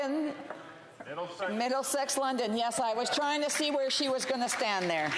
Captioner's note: applause